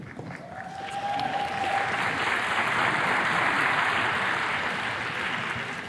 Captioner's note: attendees clapping